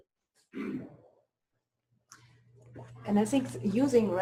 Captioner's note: pause